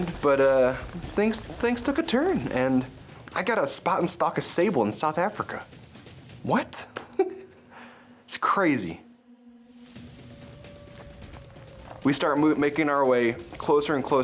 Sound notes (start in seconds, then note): 7.0 chuckling; 9.1 high intensity music